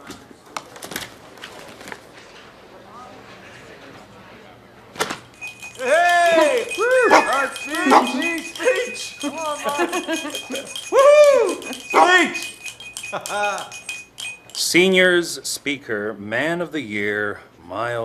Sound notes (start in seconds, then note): 7.8 barking; 13.0 chuckling